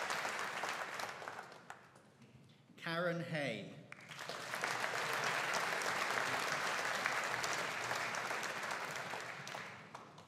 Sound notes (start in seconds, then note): 4.0 audience applauding